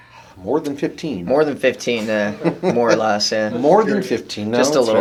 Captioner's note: laughing